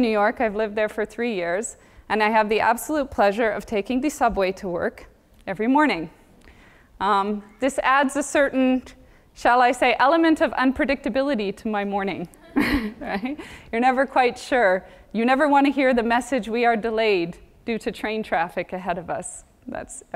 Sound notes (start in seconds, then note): 12.4 laugh